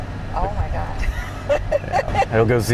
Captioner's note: laughs